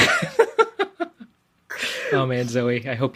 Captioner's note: lauhgs